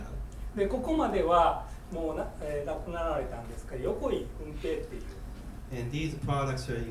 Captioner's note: speaking in foreign language